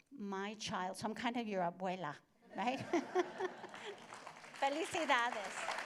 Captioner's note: laughter